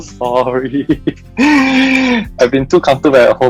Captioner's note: embarassingly chuckles; loud inhaling noise